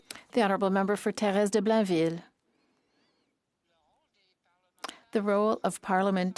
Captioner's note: speaking French